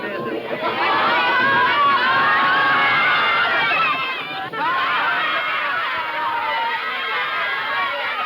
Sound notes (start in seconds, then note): 2.2 children yelling